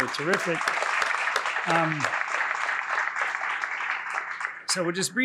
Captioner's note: applause